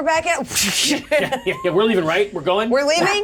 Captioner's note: whooshes